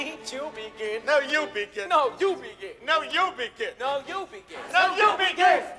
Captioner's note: RUDOLPH & LUDWIG, repeating after one another